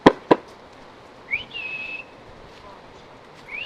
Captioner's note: whistles